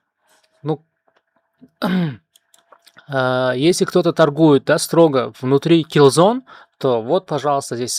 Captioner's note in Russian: откашливается